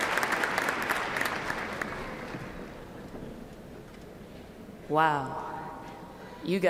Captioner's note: applause